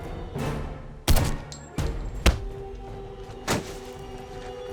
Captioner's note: gun firing